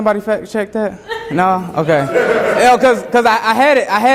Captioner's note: students laughing